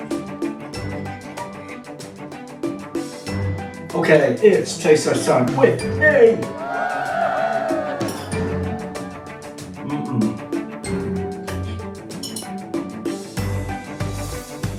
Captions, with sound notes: Okay it's taste test time with…ME. [ CROWD GOES WILD ]